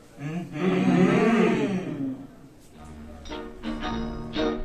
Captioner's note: suggestive Humming